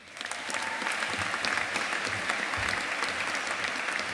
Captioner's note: audience applauding